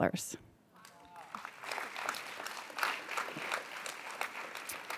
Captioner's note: audience applauds